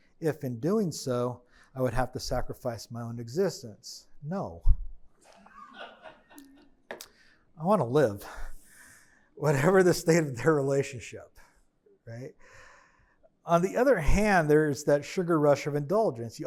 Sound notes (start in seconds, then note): 5.4 attendee laughing